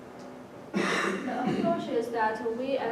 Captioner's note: cough